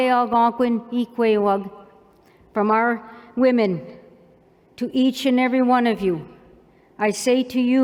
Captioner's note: non-english